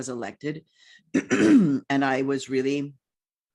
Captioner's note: clears throat